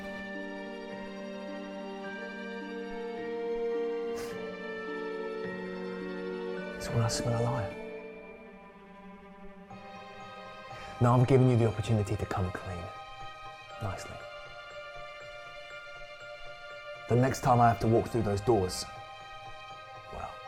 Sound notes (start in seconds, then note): 4.1 sniffs